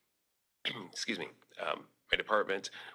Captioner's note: clears throat